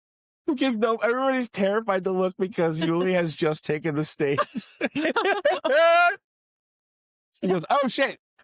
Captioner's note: laughter